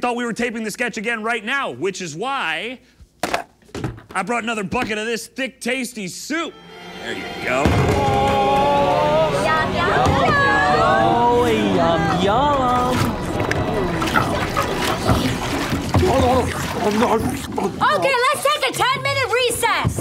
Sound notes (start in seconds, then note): 6.8 terrifying music; 12.2 disgusting slobbering sounds